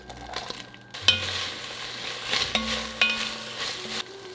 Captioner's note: sizzling